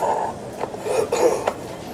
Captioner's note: sth clears throat